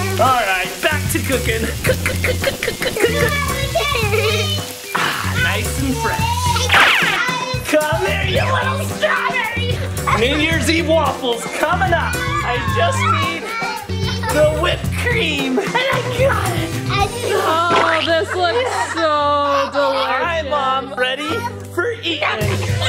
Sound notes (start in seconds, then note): 3.5 sizzling sound effect in background; 6.6 bullet ricochet sound effect; 22.6 squealing children